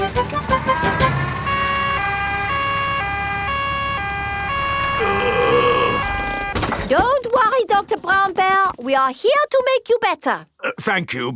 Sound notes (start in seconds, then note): 2.1 siren wailing; 4.9 groaning